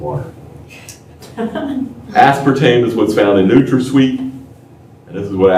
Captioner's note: laughter